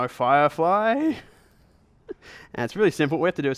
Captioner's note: chuckles